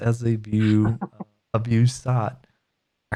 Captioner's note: laughs